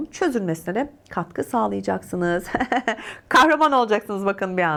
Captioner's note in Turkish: kahkaha